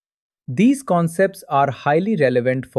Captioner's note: thoughtful